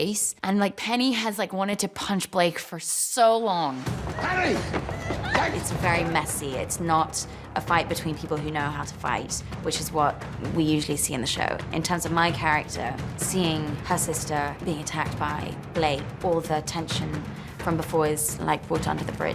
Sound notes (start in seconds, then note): 4.1 cries